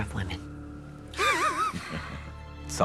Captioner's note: chuckling